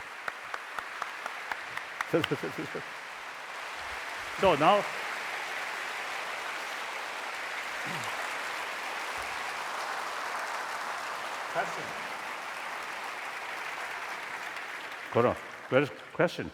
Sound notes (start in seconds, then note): 0.3 laughter; 5.2 applause